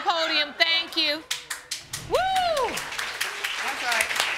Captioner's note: crowd clapping